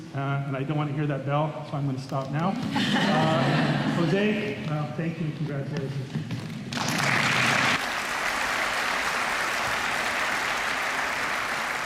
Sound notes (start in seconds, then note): 2.6 laughter; 6.7 applause